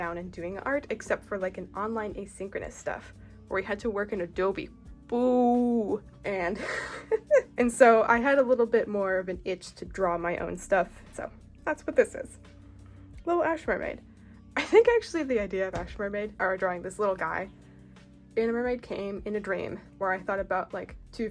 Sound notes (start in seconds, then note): 6.6 laughs